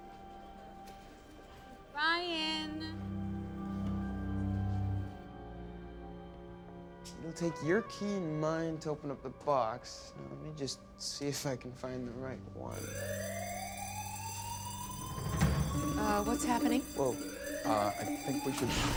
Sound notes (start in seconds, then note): 12.7 alarm blaring